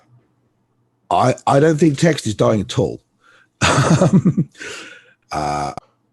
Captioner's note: laughs